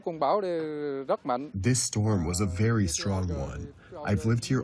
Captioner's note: through translator